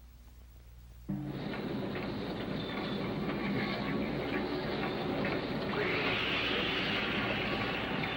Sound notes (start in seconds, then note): 0.0 machines whirring softly